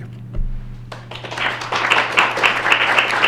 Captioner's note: clapping